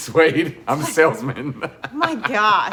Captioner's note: laughs